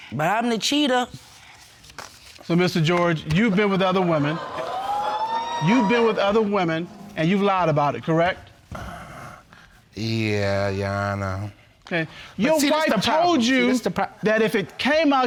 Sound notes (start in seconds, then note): 3.7 audience exclaiming